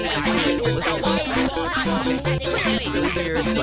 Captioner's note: jabbering